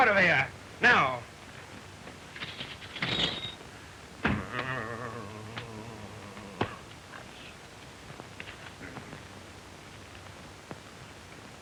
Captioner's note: grumbling